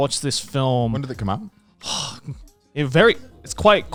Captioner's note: sighs